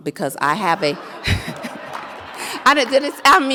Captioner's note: audience laughs; laughs